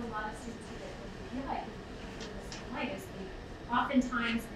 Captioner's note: speaking away from mic